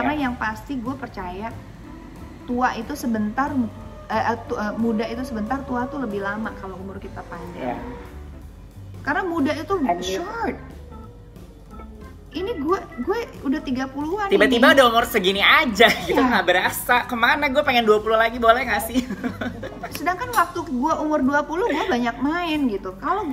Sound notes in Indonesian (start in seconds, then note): 18.9 Dena laughs